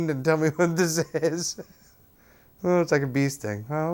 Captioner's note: laughs